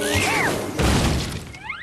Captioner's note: crash